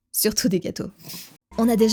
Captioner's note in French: souffle